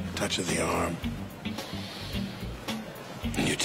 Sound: inhales deeply

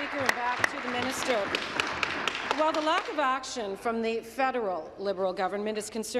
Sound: applause

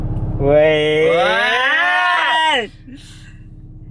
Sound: excitement

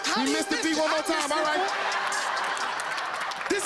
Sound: laughter

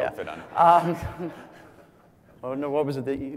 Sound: laugh

